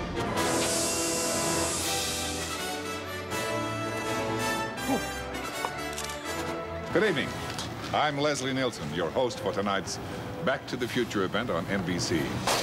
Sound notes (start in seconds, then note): 1.3 hissing; 5.6 shutter clicks